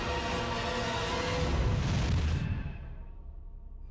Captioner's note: engine blasting